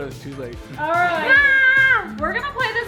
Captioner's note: exclaiming